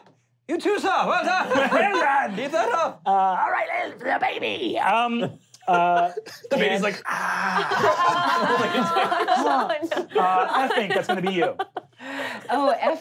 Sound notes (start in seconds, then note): 7.0 sighing; 8.5 laughing